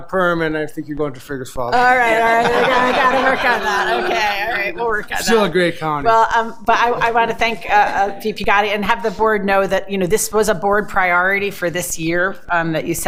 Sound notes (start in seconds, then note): 1.8 board Members laughing